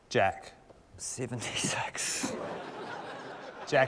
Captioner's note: laughter